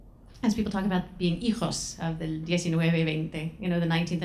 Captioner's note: speaking foreign language